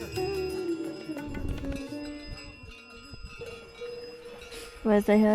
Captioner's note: bells jangle